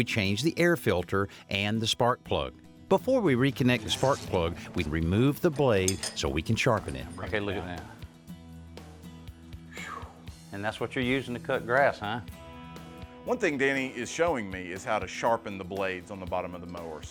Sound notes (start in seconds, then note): 9.6 sighs